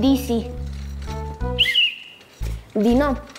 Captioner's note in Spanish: Suena el silbato una vez